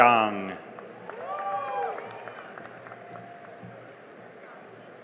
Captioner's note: cheering and applause